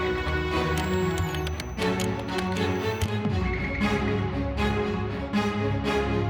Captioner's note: machine whirs and clicks; classical music